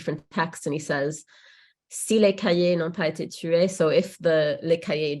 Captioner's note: speaks in French